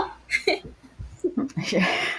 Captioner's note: laughs